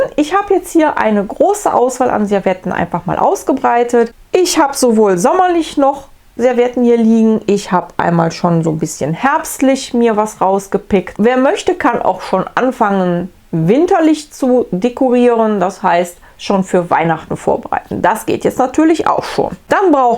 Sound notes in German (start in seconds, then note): none